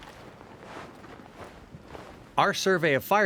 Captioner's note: clothes rustling